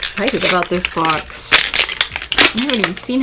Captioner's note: packaging crinkles